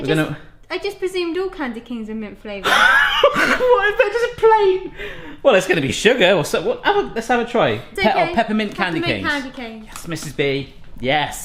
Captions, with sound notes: - I just presumed all kinds of canes are mint flavoured. - (laughs) Why if that's just a plain? Well it's gonna be sugar, or some-- Let's have a try. - It's okay. Peppermint candy canes. - Yes Mrs. B. Yes.